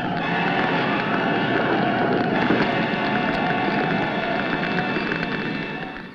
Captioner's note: flames crackling; flames roaring